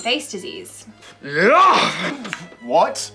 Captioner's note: yells